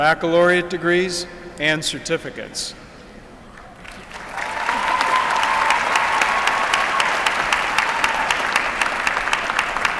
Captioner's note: applause